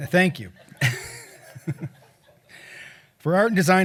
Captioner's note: chuckles